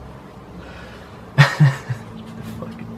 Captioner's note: giggles